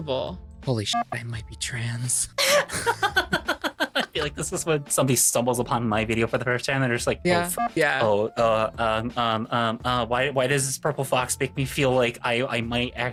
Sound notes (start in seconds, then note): 2.4 laughs